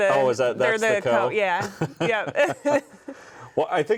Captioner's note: both chuckling